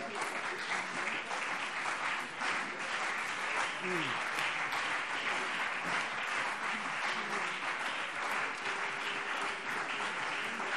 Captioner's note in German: Beifall CDU und BÜNDNIS 90/DIE GRÜNEN